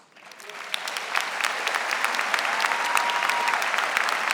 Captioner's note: audience applauding